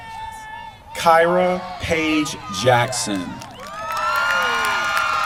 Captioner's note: applause